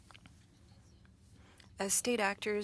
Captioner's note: speaking French